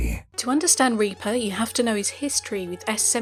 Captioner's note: voiceover